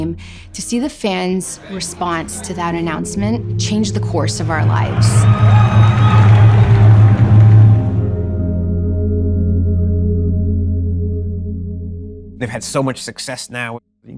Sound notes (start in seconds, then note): 4.4 a drum roll and cheers; 10.4 audience audio fades out